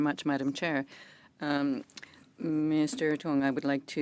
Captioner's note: speaking French